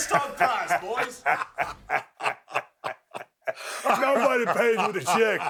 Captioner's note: both laughing